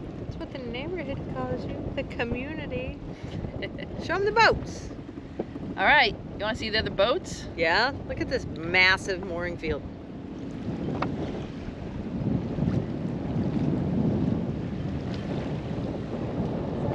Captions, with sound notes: That's what the neighborhood calls you. The community. Show 'em the boats! Alright, you want to see the other boats? Yeah, look at this massive mooring field. (wind blowing)